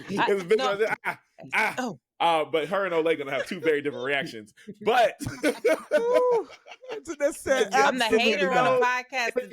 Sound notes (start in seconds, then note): 0.2 laughing; 4.9 laughing